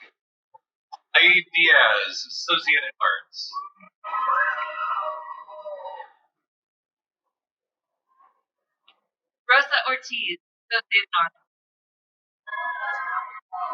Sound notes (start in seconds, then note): 2.0 cheering; 12.5 cheering